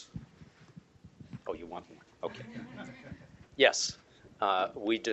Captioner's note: laughter